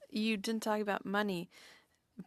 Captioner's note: speaking French